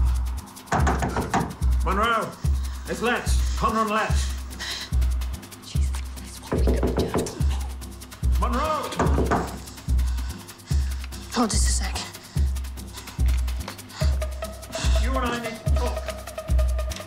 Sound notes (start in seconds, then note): 0.7 knock at door; 8.9 knock at door